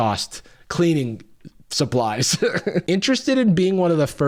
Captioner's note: laughs